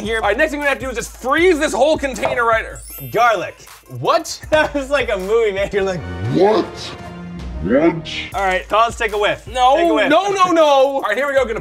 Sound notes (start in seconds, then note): 2.7 sparkly noises